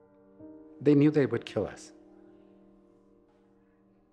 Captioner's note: with much emotion